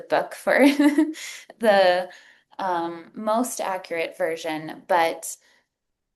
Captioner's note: chuckles